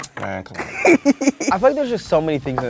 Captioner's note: laughing